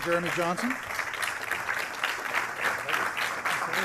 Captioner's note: applause